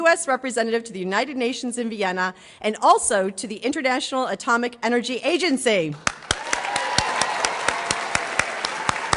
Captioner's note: applause